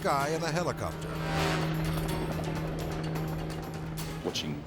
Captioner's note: helicopter whirring